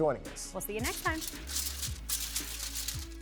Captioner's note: paper rustles; upbeat music